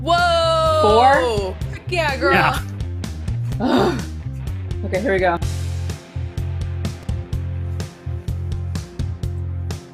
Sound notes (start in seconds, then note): 3.5 groans; 5.9 upbeat rock music continues